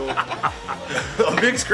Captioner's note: laughing